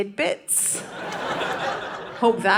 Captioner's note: audience laughing